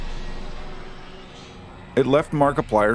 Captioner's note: ominous noises from game over screen linger